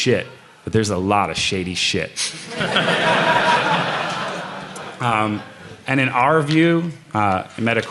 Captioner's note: laughter